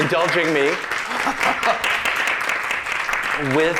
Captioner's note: applause